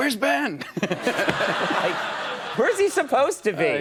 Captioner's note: audience laughs